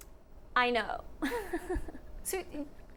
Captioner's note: chuckles